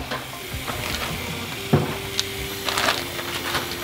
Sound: water gurgling

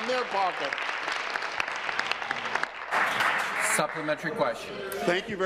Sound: applause

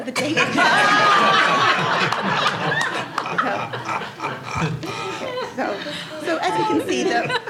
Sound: laughter

